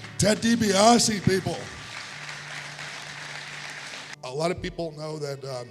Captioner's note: congregation applauding